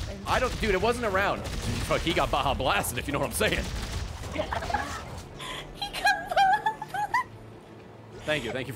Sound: laughs

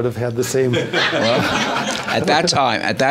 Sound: everyone laughs

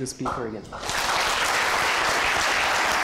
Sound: applause

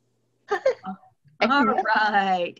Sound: laughter

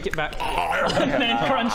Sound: arggghhanom

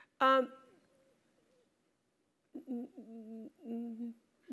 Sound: laugh

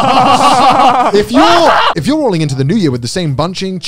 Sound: laughing; screaming

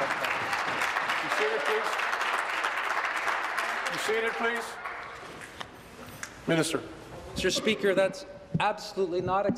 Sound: applause

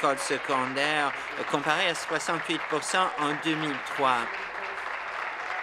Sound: applause

